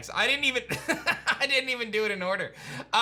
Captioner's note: laughs